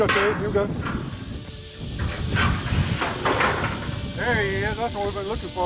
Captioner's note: snake rattling